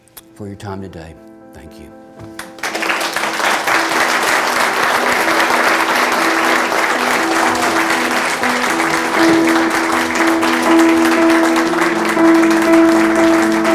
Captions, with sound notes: For your time today, thank you. (audience claps) (light music)